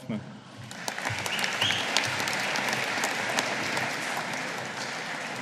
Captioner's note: audience applauding